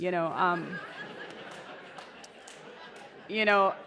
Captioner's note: laughter